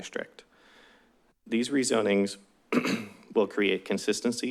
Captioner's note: clears throat